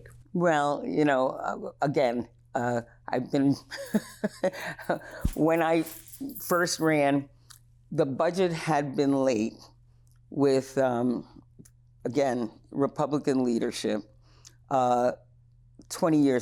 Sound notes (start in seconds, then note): 3.7 laughs